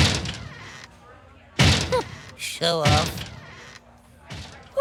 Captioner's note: scoffs